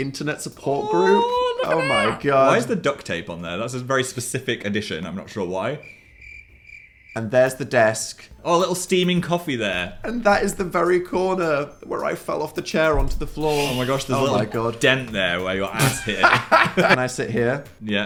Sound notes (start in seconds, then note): 5.8 crickets; 15.7 laughs